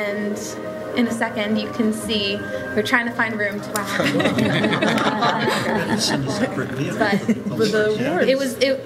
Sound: laughter

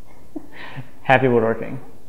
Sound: chuckles

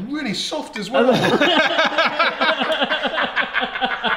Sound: all laugh

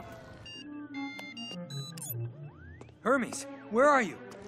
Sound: cell phone ringing

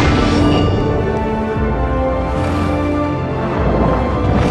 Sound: dramatic music; water swooshing

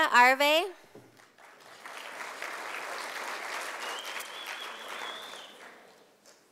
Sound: sound of applause from audience

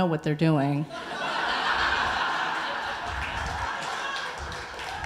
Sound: audience laughing

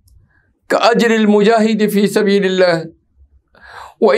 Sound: arabic

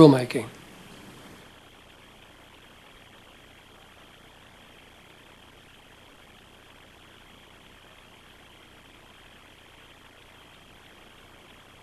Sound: no speaking

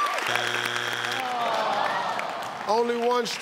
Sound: audience clapping; electronic buzzing; audience groaning

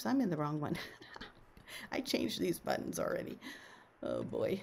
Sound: laughs

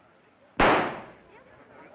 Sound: loud shot; crowd murmuring

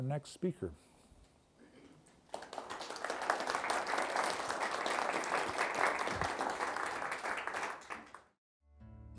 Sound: applause

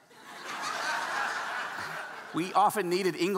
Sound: audience laughing

